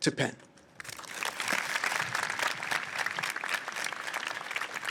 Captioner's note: audience applauds